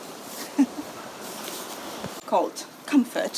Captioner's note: chuckles